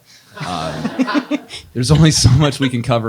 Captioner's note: audience laughs